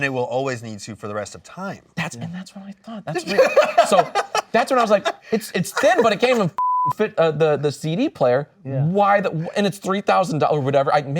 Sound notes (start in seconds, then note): 3.1 laughing; 6.5 beep